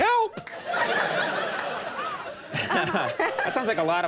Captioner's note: crowd laughs